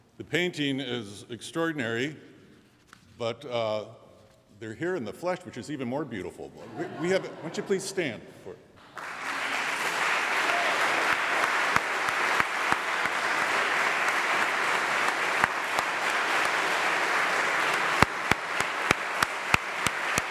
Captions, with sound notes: - The painting is extraordinary but they're here in the flesh which is even more beautiful. (audience laughs) Won't you please stand? (audience applauds)